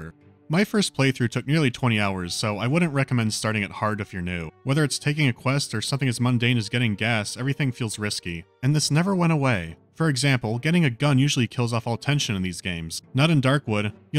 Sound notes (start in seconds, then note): none